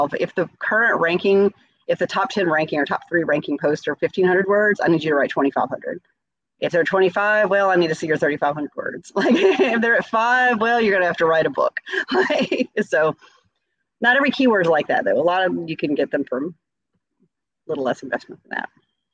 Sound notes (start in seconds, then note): 9.2 chuckles; 12.4 laughs